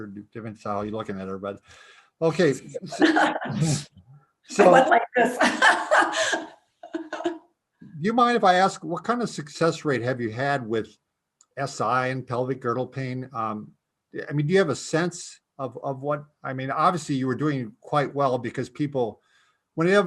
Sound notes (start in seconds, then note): 2.6 laughs; 6.8 laughs